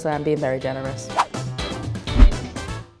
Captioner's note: upbeat corny music; whoosh